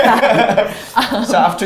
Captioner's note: laughs